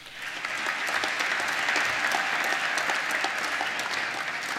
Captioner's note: applause